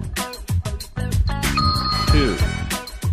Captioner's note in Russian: дзынь